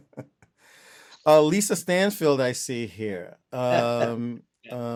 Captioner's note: laughter